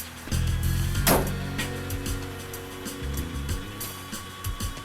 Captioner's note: truck door slams